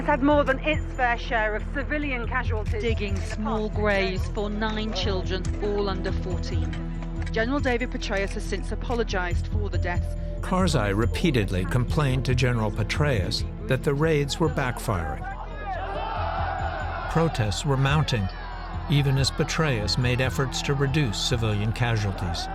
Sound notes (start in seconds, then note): 15.5 shouting